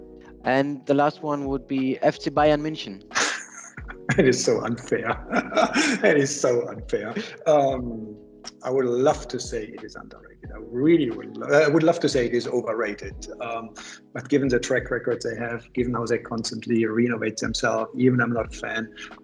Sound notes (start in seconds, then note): 3.1 laughs